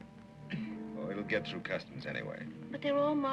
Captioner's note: laughing